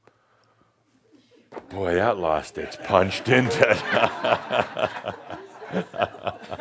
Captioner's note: Adamus chuckles